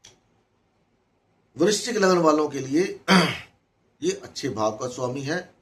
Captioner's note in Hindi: गला साफ़ करने की आवाज़